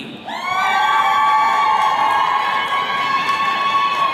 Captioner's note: attendees cheering